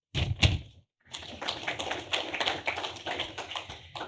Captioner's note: applause